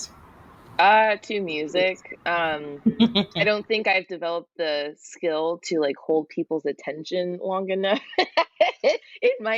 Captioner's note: laughs